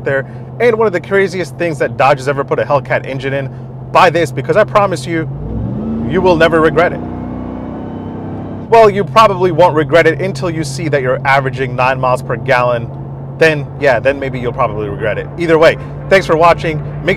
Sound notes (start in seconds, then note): 5.0 vehicle engine revving; 7.1 vehicle engine roaring